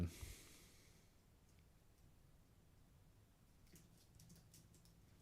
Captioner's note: silence